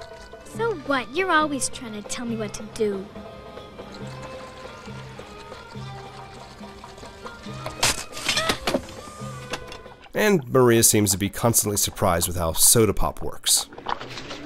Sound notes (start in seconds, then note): 3.8 bottle bursts; 13.7 bubbling